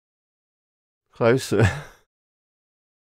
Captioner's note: chuckles